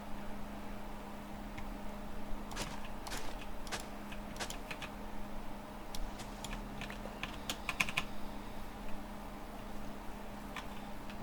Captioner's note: typing